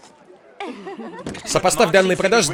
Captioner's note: <i>women giggling</i>